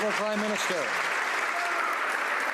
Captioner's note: some Applause